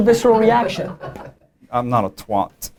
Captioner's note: laughter